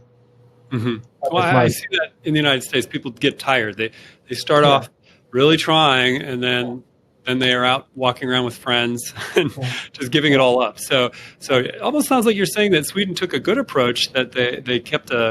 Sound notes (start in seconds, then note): 9.0 chuckle